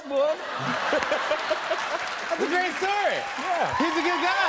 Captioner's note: laughter and applause